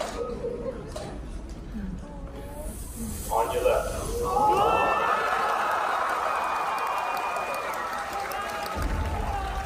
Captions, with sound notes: On your left. (Audience cheering)